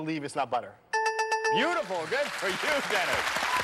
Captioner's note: dings